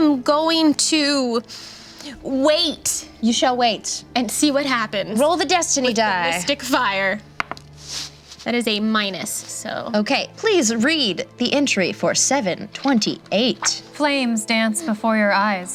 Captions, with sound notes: I am going to wait. - You shall wait. - And see what happens- - Roll the destiny die. - with the mystic fire. (dice rolls) That is a minus, so. - Okay, please read the entry for 728. - Flames dance before your eyes